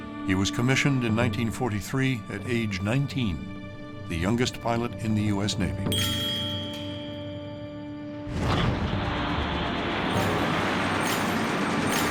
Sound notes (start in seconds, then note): 8.3 engines roaring